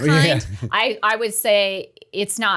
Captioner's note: chuckle